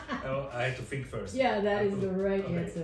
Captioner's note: laughs